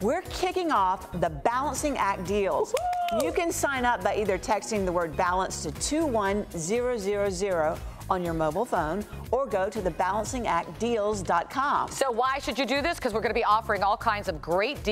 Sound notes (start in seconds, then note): 2.7 clapping